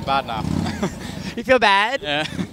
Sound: both laugh

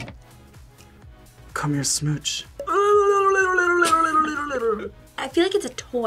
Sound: tongue trills

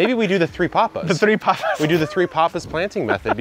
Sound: laughing

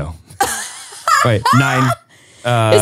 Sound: laughing

